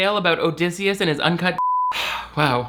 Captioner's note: beep